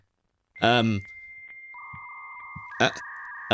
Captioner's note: dial up internet sounds